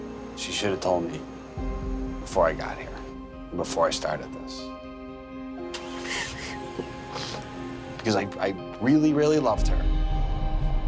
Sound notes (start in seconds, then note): 5.8 crying; 9.4 breathing shakily